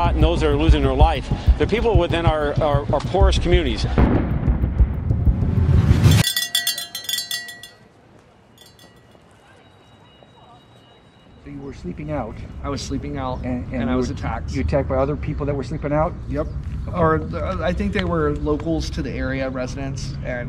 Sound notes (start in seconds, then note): 4.1 bell ringing; 4.1 thunder rumbling